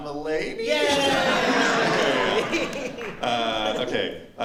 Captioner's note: laughter